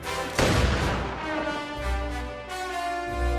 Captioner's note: gunshot cracks